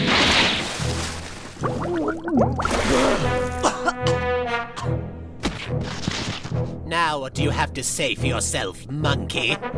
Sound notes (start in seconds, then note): 1.6 gurgling underwater; 2.9 coughing